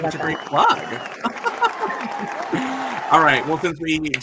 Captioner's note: crowd cheers